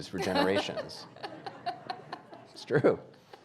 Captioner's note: audience laughing